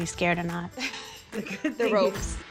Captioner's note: laughing